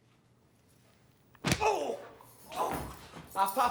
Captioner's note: Winston groans